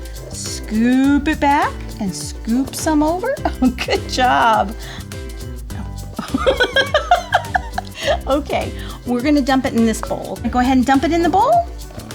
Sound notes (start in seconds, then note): 6.1 laughs